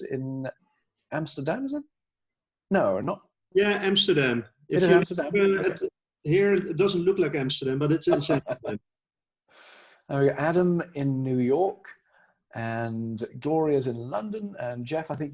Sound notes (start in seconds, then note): 8.9 laughing